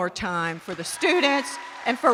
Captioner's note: attendees applauding